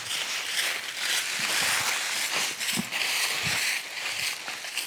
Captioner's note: leaves crunching